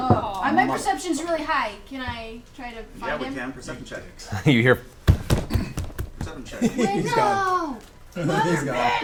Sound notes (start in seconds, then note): 5.0 footsteps running